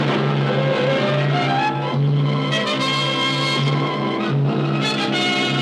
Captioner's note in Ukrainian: постріли